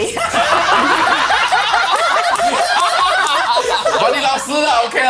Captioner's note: laughs